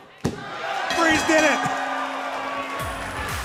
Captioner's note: bell ringing